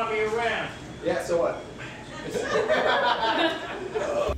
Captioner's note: cast laughs